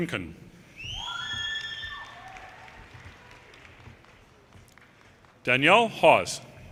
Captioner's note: audience cheers and applause